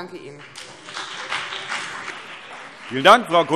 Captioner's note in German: Beifall BÜNDNIS 90/DIE GRÜNEN und CDU